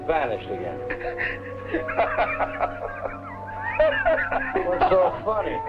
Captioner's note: Colonel Cabeza laughing